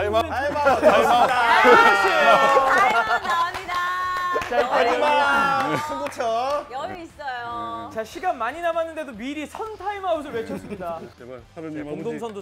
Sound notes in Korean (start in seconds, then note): 4.5 환호하는 mc군단 / 박수